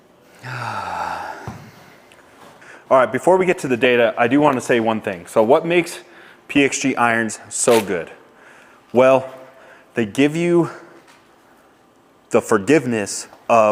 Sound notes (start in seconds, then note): 0.3 sighs